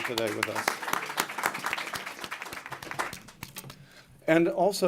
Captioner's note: applause